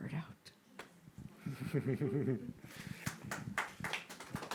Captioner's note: group chuckling; group applauding